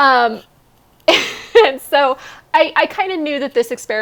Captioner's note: laughs